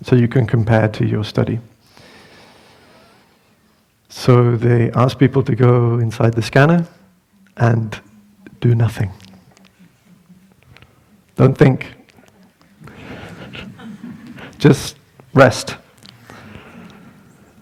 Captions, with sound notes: so you can compare to your study. So they asked people to go inside the scanner, and do nothing. Don't think. (Laughter) Just rest.